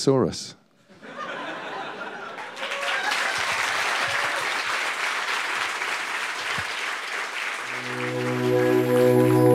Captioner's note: laughter and applause